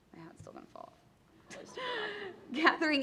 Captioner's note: laughter